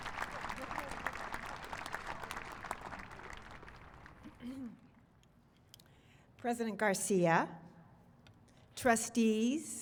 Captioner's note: applause